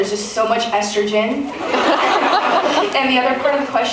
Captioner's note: laughs